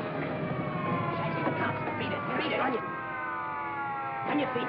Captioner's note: distant sirens wail